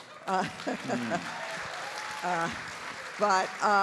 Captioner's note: audience applauding